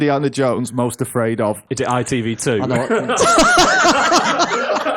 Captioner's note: laughter